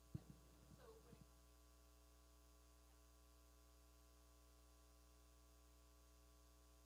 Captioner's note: speaking away from mic